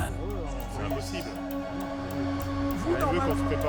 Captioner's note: speaking French